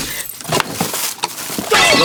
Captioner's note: the sound of unpackaging chaos